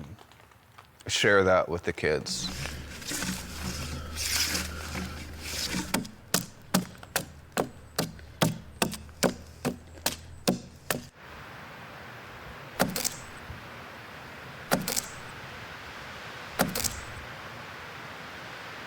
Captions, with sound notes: share that with the kids. (wood scraping) (tool banging)